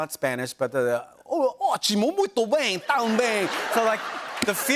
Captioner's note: laughter; speaking foreign language